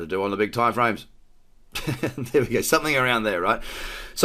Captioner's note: laughs